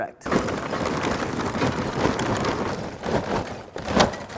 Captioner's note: charcoal clanking